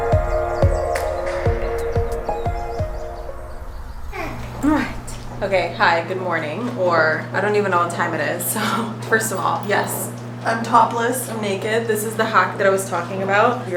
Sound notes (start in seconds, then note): 0.0 birds chirping; 4.2 baby mumbles